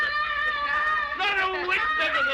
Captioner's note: children yelling